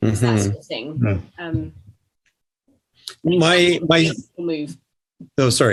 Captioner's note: murmured agreement from all